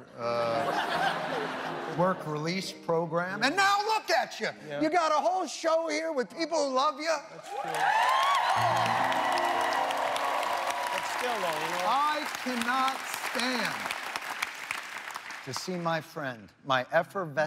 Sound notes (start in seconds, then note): 13.2 cheers and applause